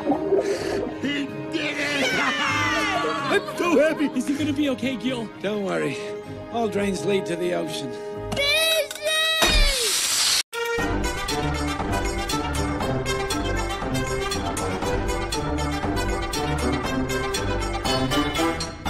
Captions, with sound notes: He did it!! [LAUGHING] I’m so happy!! Is he gonna be OK, Gill? Don’t worry. All drains lead to the ocean. Fishy!!!!